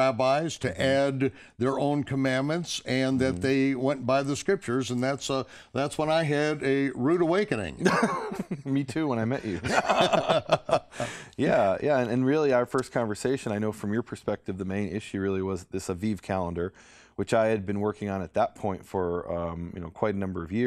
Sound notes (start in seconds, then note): 9.4 laughter